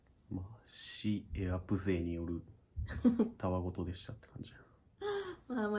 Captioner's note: laughs